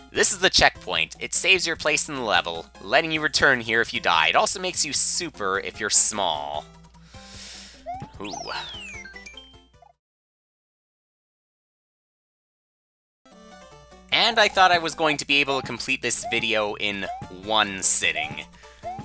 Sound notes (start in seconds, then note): 6.9 breathing